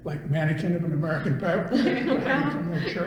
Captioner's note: all laugh